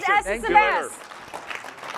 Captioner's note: applause